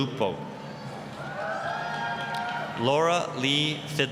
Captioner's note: applause, cheering